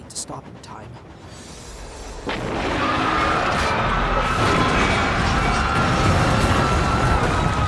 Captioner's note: screamimg and crashing